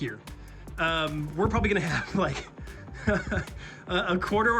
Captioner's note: chuckles nervously